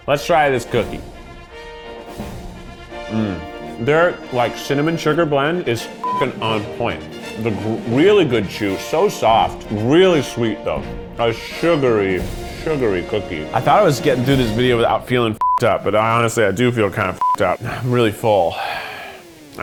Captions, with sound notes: Let's try this cookie. (regal music) Mm. Their cinnamon sugar blend is (beeps) on point. Really good chew, so soft, really sweet, though. A sugary, sugary cookie. I thought I was getting through this video without feeling (beeps) up, but I honestly, I do feel kinda (beeps) up. I'm really full.